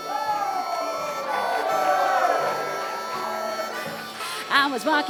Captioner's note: cheers and applause